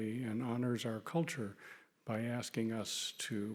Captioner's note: none